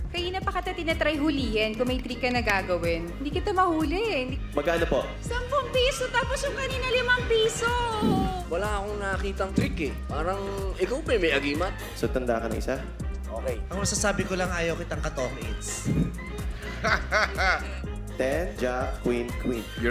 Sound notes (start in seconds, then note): 15.6 laughing